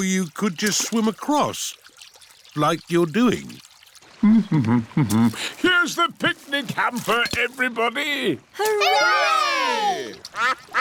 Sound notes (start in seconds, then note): 4.6 hums